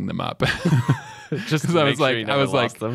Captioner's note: both laugh